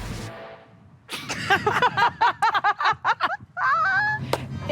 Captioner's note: laughing